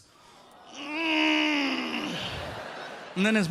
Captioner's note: grunting